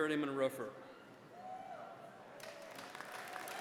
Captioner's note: applause